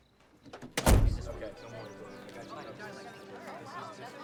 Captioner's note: all chattering